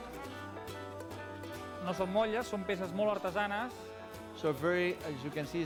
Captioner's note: non-english speech